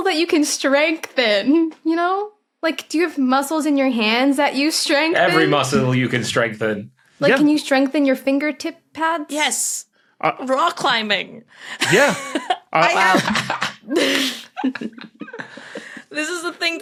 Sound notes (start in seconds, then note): 13.4 group giggling